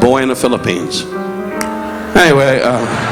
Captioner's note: audience laughing